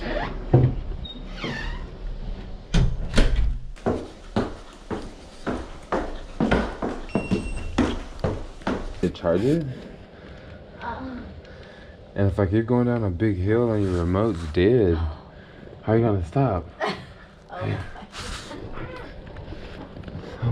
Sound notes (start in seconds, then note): 1.0 door closes gently with a creak; 3.7 footsteps; 10.8 moaning in background